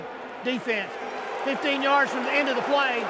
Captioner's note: booing